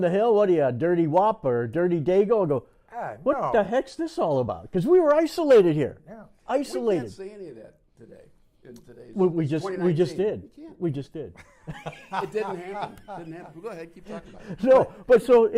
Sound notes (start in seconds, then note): 11.3 laughter